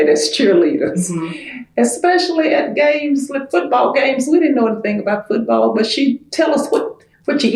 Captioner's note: laughs